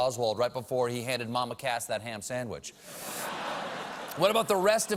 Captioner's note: laughter